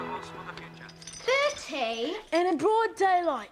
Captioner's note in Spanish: traqueteo de la cadena